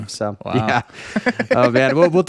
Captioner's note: laughing